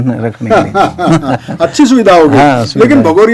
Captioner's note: laughs